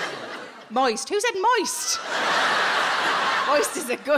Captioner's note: audience laughs